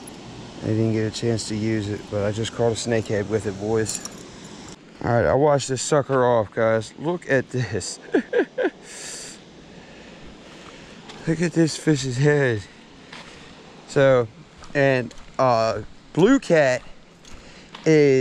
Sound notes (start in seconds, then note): 7.9 laughter